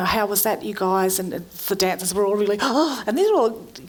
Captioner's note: gasping